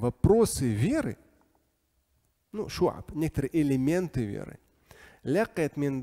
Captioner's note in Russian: говорит на арабском